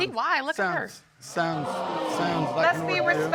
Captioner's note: audience gasps